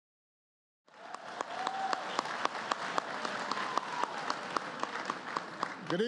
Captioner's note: applause